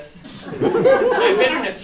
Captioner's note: laughter